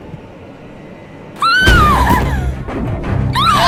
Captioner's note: Iliya screams